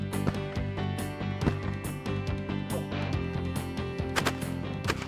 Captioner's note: multiple gunshots